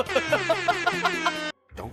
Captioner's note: laughs